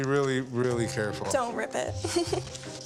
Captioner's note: giggles